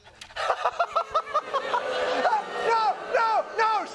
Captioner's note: audience booing